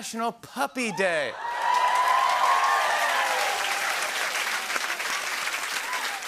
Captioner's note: cheers and applause